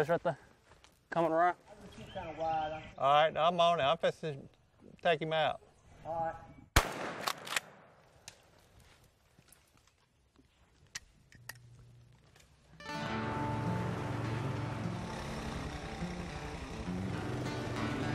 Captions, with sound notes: - There you go, he's right there, comin' around. - Alright, I'm on it, I'm fixin' to take him out. (gunshot) (banjo music)